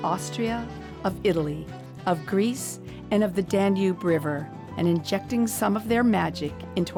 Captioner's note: none